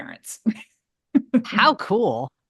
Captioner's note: laughs